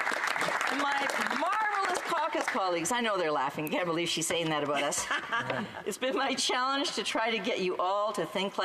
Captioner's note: some Applause